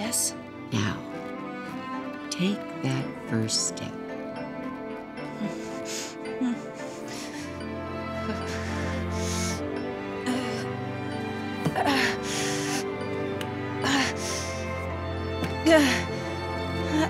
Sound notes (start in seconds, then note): 10.1 groaning; 15.6 grunting, groaning